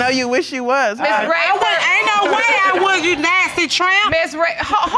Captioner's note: audience laughing